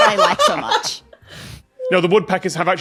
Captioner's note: laughs